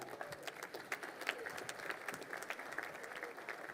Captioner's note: crowd applauding